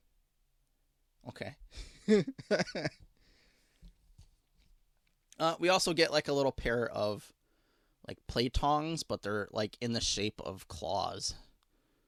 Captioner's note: laughing